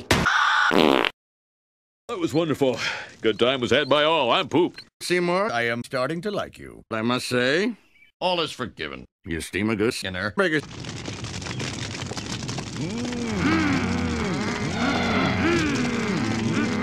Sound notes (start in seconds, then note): 12.7 Multiple Mmm! from Marge, Skinner, Homer and Krusty